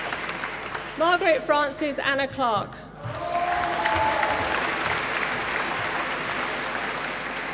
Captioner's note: applause